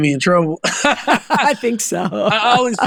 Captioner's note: laughing